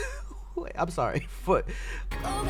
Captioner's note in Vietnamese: cười khóc